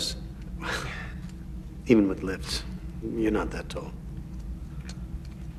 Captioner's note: chuckles